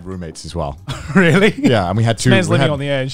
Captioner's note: laughs